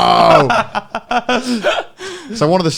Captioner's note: laughing